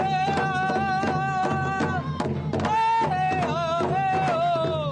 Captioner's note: chanting